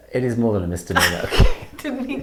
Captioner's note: laughing